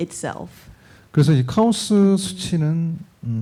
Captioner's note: speaking korean